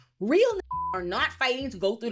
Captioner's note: beep